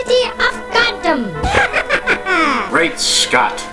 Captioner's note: sinister laughter